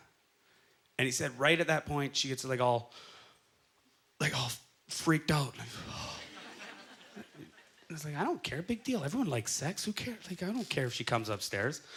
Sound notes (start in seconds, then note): 6.1 audience laughter